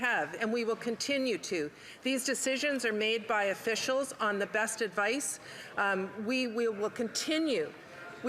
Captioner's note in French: voix de l'interprète